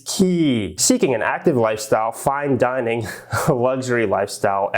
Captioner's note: chuckles